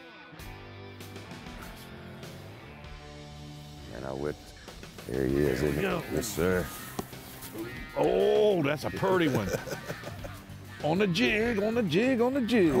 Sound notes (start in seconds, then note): 8.9 laughing